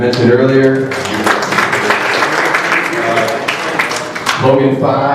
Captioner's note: applause